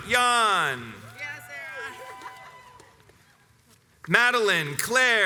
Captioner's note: spectator cheers "Yeah Sarah"